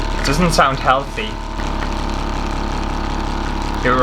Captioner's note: dying Loud Motor Sounds